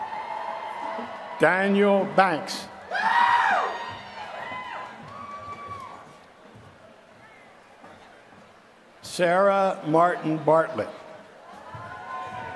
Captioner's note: applause; applause